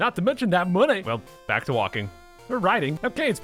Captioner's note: sadly